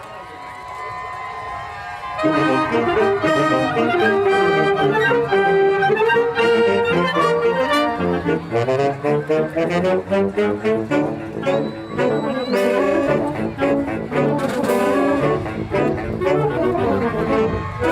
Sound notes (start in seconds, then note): 1.8 cheering